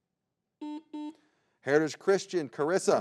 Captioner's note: button blips